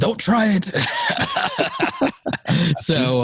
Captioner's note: laughing